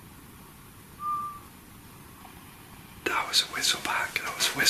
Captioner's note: whistling